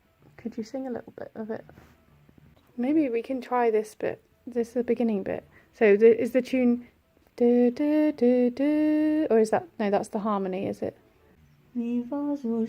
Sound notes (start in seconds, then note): 6.6 hums melody; 12.4 singing in German